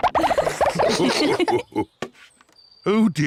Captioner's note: all laugh